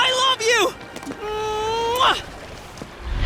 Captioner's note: kissing